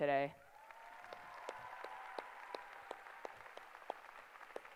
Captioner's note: applause